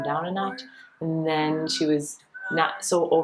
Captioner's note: whistling